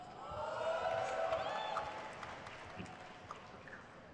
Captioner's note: crowd cheers